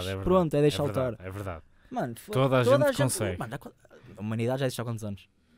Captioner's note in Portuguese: ironia